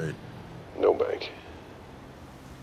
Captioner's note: on phone